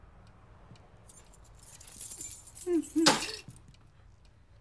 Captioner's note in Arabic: رنين المفاتيح